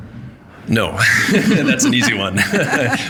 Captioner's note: both laughing